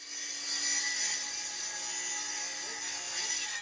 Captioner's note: saw rings